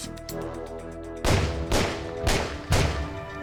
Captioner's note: gunshots